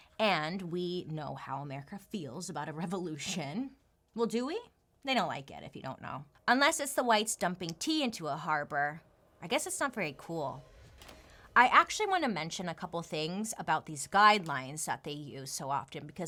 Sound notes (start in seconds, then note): none